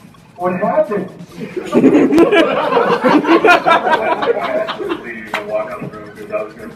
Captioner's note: laughter